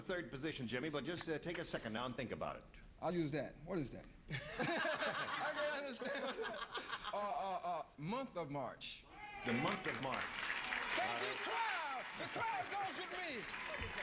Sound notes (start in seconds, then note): 4.4 laughing; 9.4 applause